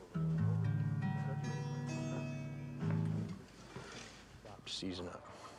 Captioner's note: guitar strumming; Abe speaking faintly